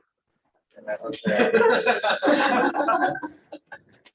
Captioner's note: audience laughs